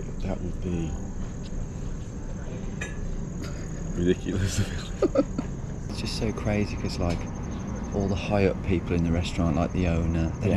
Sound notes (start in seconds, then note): 4.3 both laugh